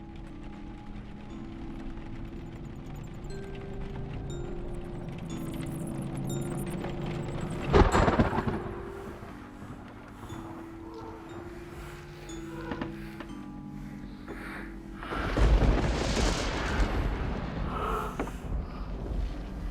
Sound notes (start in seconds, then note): 7.4 lightning crashes; 12.4 something breathes; 15.0 lightning crashes again